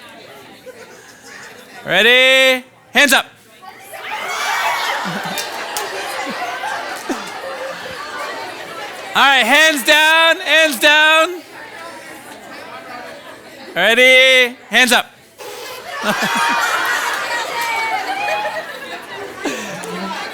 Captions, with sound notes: Ready? Hands up. (participants excitedly conversing) All right, hands down, hands down. Ready? Hands up. (participants conversing, laughing)